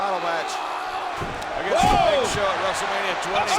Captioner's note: Rusev yelling; body thudding; blows thudding; footsteps plodding